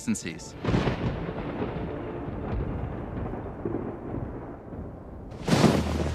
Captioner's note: thunder resounds and fades